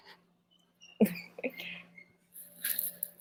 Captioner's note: giggles